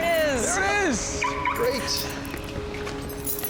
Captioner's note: car alarm chirps